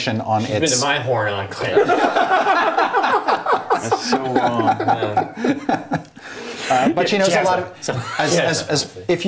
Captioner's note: laughter